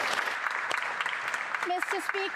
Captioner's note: speaking French